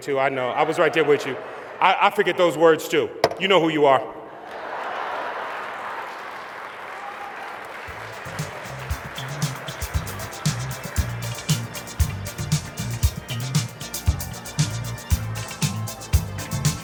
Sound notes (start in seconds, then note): 10.0 applause